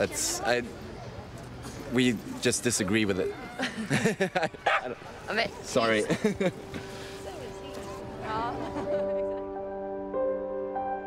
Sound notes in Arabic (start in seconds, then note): 3.6 ضحك; 4.6 ينبح; 8.7 موسيقى هادئة